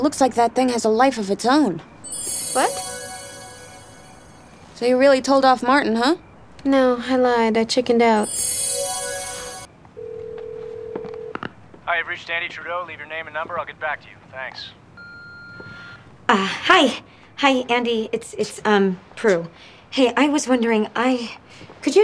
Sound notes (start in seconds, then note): 8.2 bells gently chiming; 10.0 phone ringing; 15.1 phone beeping